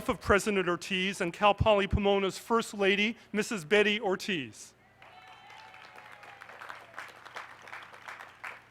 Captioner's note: applause